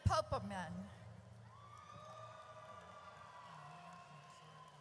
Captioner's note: audience cheers